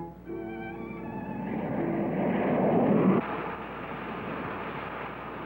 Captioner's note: plane engine humming